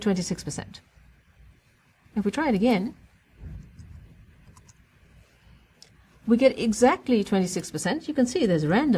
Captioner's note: pause